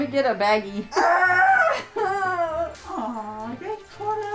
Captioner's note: moans